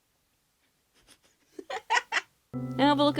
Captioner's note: laughing at his own jokes